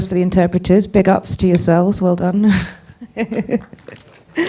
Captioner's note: laughing